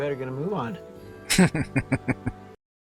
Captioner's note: chuckling